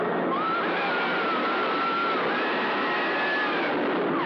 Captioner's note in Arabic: صراخ